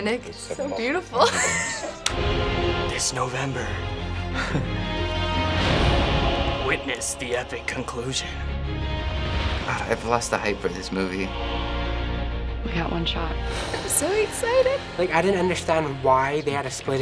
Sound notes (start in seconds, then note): 1.2 laughs; 2.7 dramatically; 4.3 chuckles; 6.4 dramatically